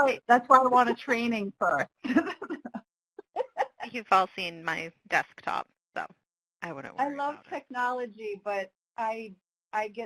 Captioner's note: laughing